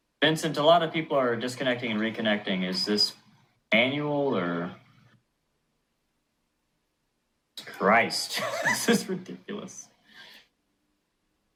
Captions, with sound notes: Vincent, a lot of people are disconnecting and reconnecting, is this manual, or? Christ. This is ridiculous. [Frustrated laughter]